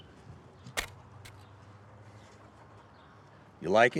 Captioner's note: shovel thuds